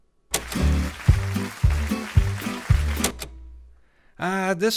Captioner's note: audience applauding; buoyant music